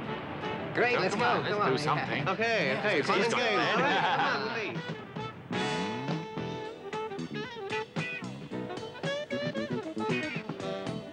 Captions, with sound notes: - Great, let's go, come on, yeah. - Okay, okay. (men chattering) (upbeat, jazzy music)